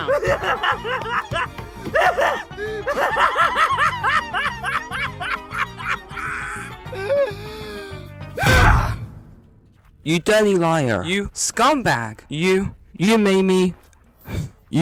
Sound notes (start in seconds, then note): 0.0 laughs manicly; 8.4 slams